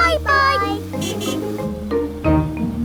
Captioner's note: horn honking